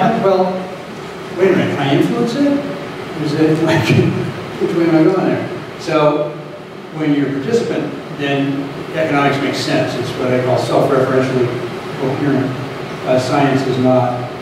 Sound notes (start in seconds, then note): 3.6 laughing